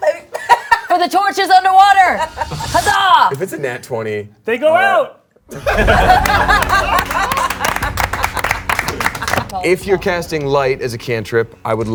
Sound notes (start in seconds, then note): 0.0 laughing; 5.5 all laughing and clapping